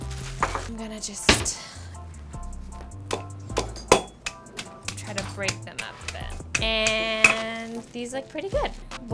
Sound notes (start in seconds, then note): 3.1 roller banging